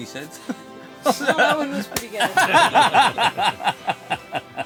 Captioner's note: laughter